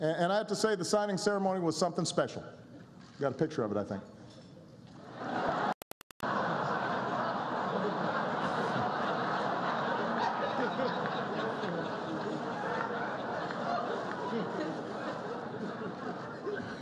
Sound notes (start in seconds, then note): 10.4 laughter